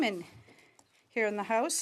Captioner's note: speaking French